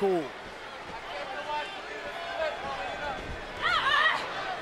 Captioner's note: crowd clamoring